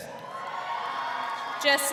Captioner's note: crowd cheering